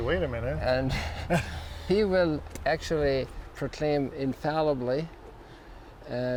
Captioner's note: laughs